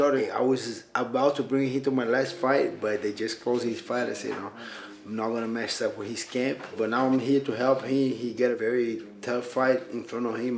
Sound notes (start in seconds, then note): none